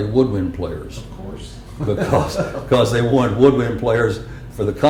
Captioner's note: laughter